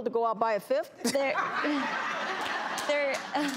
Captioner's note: laughter